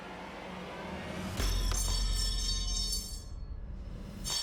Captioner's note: clanging